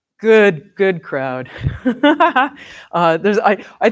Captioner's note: laughs